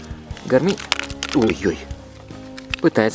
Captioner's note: sound of a falling camera